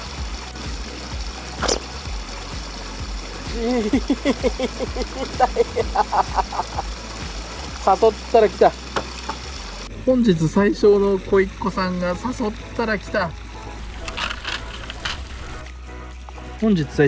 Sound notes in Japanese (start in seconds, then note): 3.5 笑い